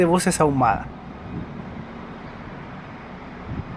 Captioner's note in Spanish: bus maniobrando en el terminal